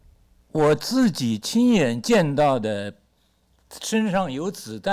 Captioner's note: speaks Mandarin